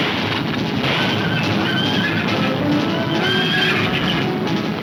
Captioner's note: gunfire pops; horses neighing